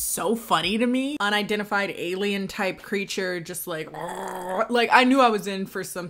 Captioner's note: gurgles